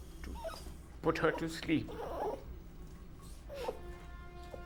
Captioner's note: dog whimpering; gentle music